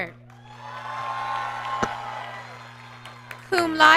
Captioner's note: applause